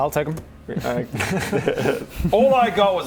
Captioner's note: greedy giggles